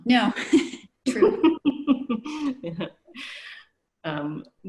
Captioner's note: laughter